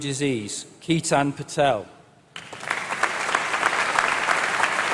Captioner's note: applause